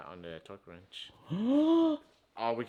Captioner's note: gasping